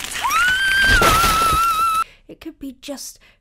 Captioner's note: glass breaks